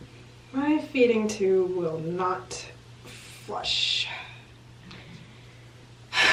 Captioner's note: sighs